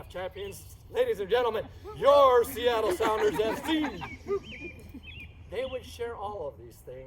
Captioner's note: laughing, woops